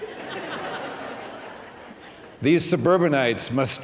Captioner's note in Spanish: risas